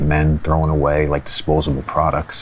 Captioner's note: none